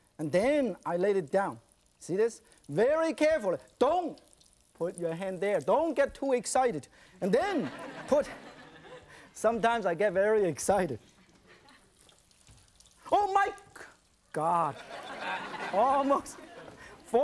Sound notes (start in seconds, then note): 7.4 audience laughing; 14.7 audience laughing